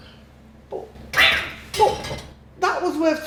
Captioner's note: cat screech and buddha smashing noises